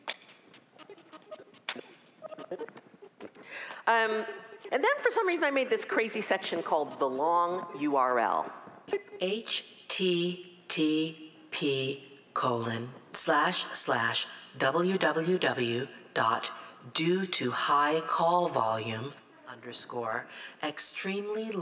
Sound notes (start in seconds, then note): 4.0 recorded Voice